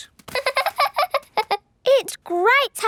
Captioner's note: laughing